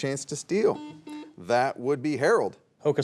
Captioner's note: buzzer beeps